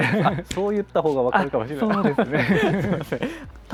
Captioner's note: laughs